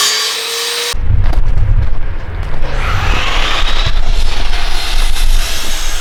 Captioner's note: engine Revving